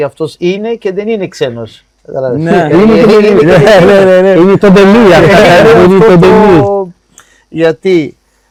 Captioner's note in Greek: γέλια